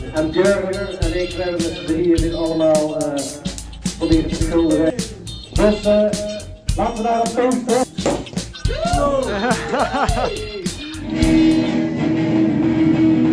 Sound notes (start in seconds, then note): 8.0 champaign bottlecap pops; 8.6 shouts